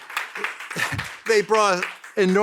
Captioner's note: audience applauding